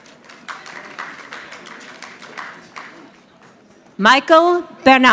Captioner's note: audience clapping